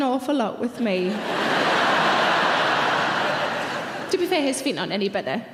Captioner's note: laughing